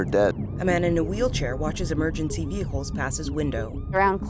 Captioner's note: distant siren blares